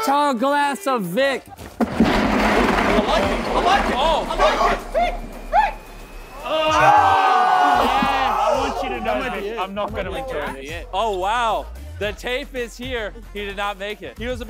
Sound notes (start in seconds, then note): 1.6 board sliding; 4.8 indistinct cheering